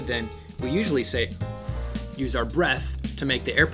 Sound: blows

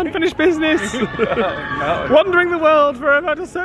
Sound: laughing; riders screaming

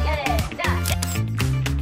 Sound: snap!

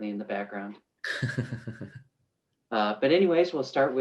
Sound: soft giggles

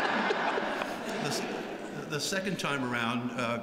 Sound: laughter

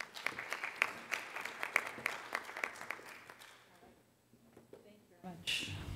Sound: applause

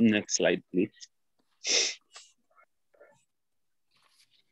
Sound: silence

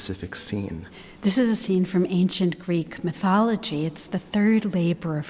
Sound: voiceover

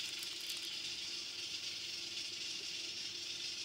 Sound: this is the sound of rice cooking

